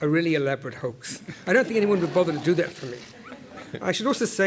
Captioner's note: laugh